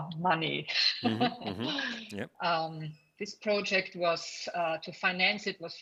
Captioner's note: laughs